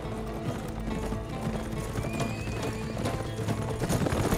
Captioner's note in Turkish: At kişniyor